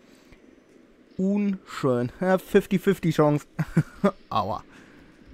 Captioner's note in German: Lacht